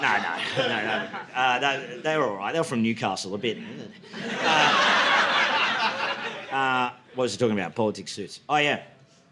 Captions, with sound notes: No, no, no, no. They were all right, they were from Newcastle a bit. (audience laughing) What was he talking about, Politix Suits? Oh yeah.